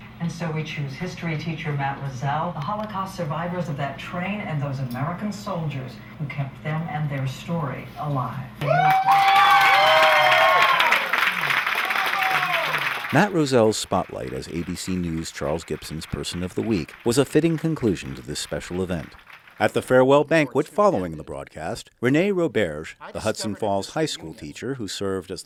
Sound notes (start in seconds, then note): 8.6 cheers, applause